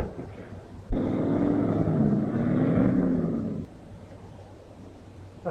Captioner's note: engine rumbling